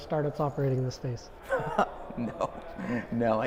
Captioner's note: laughs